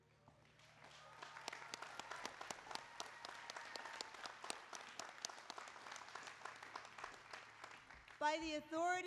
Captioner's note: applause